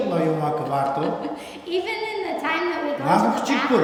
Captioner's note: laughs